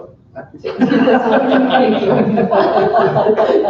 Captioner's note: laughter